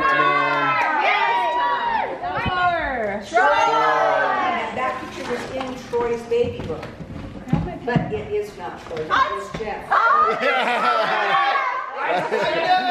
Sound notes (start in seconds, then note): 10.0 crowd cheering; 10.0 murmurs